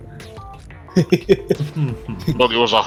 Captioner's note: chuckle